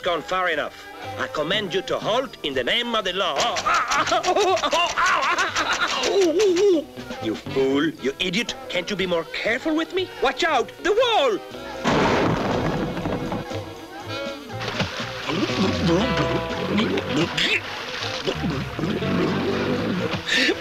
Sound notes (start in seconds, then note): 2.8 exclaiming in pain; 14.3 Inspector gulping and gasping